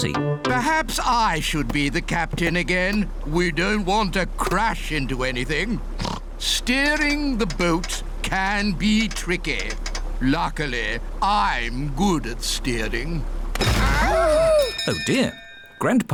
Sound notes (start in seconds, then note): 6.0 oinks; 13.1 clattering; 14.2 bell ringing